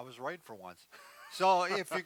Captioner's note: laughing